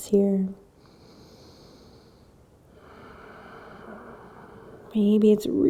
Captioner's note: inhaling and exhaling